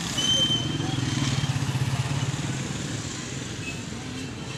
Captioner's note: street noise